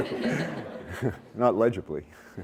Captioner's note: laughter